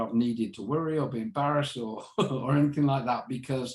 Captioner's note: chuckles